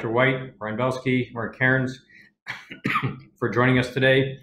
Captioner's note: coughs